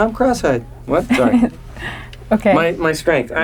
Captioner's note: laughs